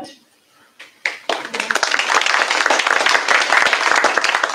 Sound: applause

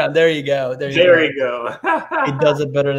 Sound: laughing

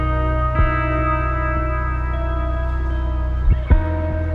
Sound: inaudible footsteps

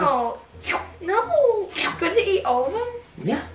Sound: slurping noises

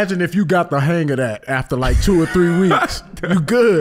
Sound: Iman laughing

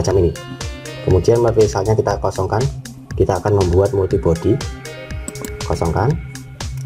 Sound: click

